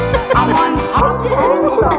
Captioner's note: family laughing